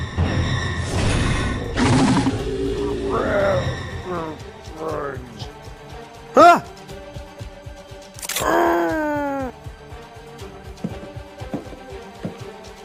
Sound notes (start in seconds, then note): 2.7 zombie speak; 8.2 camera click; 8.4 zombie groan